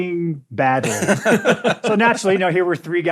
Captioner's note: laughter